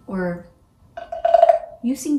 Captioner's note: sound of wood